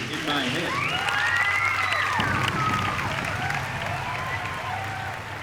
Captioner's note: cheering